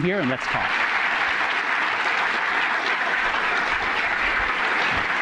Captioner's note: applause